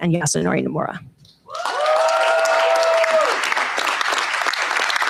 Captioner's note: cheers, applause